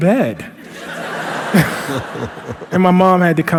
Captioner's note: laughter